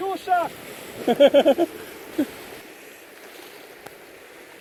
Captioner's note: laughing